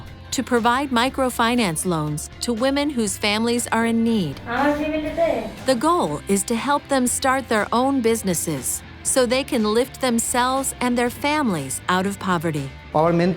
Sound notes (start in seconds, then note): 4.4 woman speaking native language